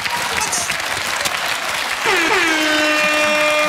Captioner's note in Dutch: applaus